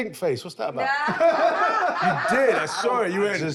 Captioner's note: laughter